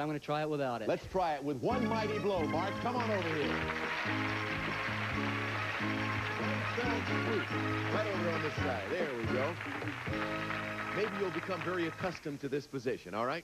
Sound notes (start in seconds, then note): 4.5 audience applauding